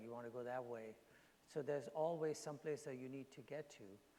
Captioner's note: none